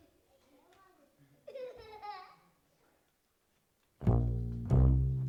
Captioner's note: child giggles; steady music